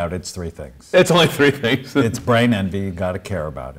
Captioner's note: laughs